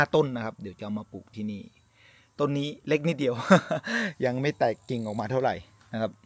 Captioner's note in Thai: เสียงหัวเราะ